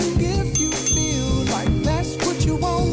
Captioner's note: ding ding!